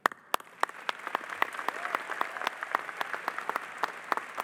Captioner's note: audience applauding